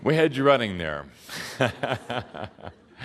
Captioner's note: laughing some more